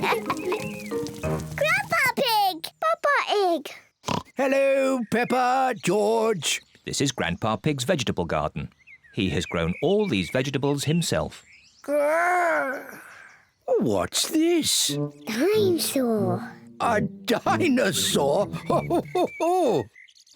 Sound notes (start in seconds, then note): 4.0 oinks; 17.4 laughs